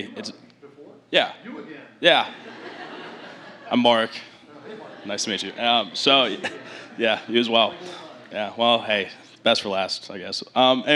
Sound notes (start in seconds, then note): 2.3 laughter